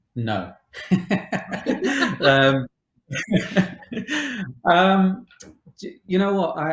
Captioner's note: both chuckles